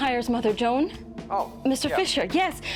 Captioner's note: on phone